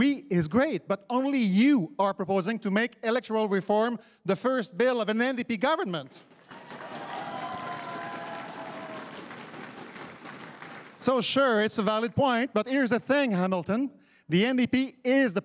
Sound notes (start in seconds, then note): 6.3 crowd cheering and applauding